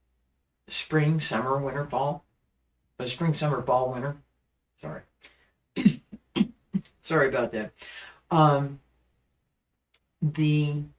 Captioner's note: coughs